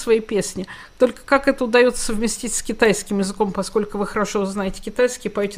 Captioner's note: Mandarin